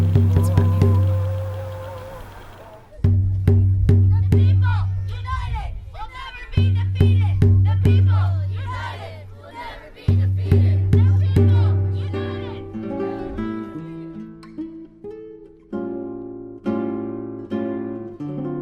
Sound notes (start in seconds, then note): 4.1 chanting; 11.7 guitar